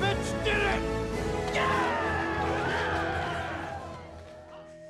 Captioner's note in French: acclamations